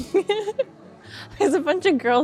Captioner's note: laughing